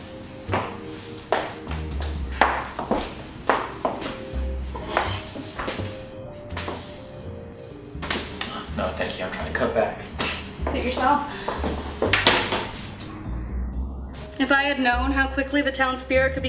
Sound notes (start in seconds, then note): 0.5 footsteps